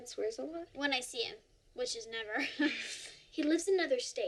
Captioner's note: laughs